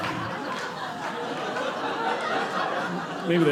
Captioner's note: audience laughing